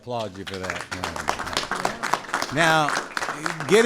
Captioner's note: applause